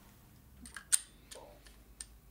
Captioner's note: click